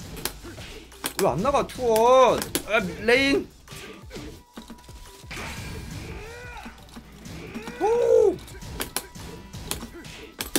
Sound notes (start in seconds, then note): 7.7 bird noises